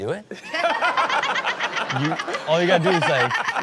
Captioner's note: everyone laughs